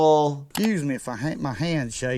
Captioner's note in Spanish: clic